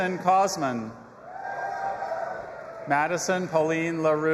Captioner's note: audience applauding and cheering